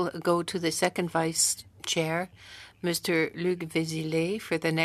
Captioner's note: speaking French